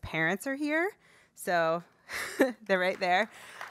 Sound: laugh

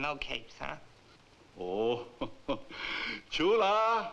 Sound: laughs

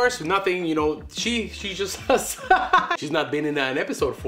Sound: laughing

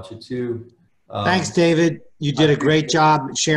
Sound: mumbles

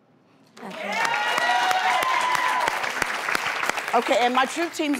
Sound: applause

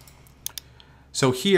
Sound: mouse clicks

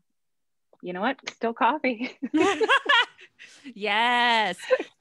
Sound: laughs

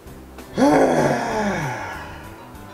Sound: disapproving grunt

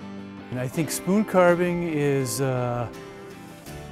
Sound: voiceover

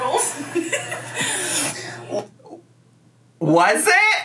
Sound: laughing

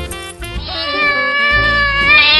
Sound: meow

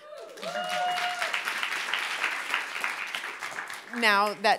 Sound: audience applauding

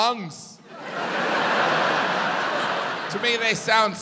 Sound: audience laughs

